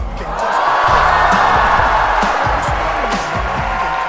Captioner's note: applause